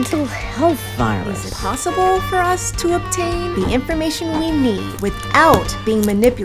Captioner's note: podcast Voice